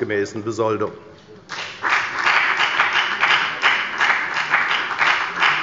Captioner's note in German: Beifall bei der FDP